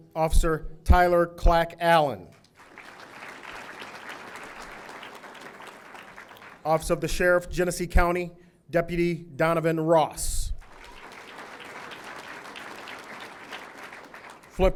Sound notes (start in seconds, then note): 2.4 audience applauding; 10.6 audience applauding